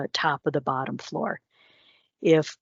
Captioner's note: breaths deeply